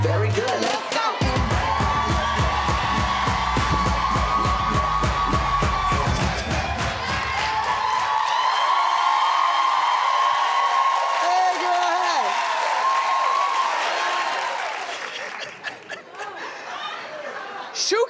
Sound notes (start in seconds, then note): 7.1 cheering; 15.0 chuckles